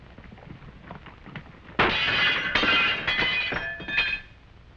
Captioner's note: gunshots